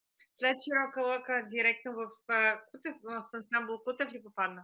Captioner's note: foreign Language Spoken